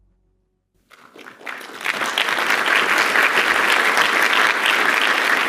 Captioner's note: applause